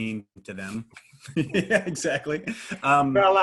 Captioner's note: laughs